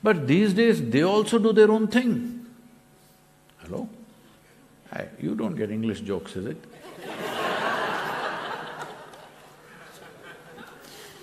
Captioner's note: laughter